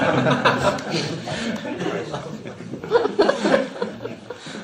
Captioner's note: laughter